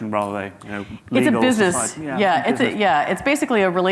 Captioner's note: faintly speaking